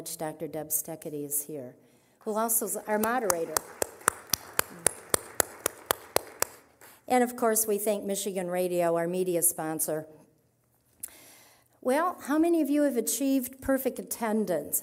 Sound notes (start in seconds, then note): 4.7 applause